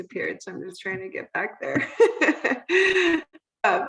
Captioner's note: laughing